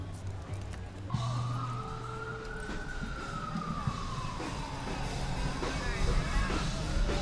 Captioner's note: sirenas de policía